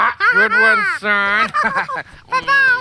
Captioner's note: both laugh